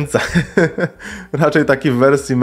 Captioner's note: laughter